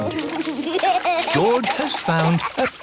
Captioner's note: giggling